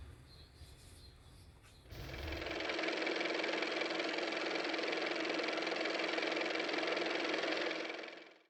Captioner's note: car motor